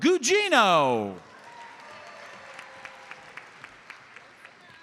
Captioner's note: audience applauds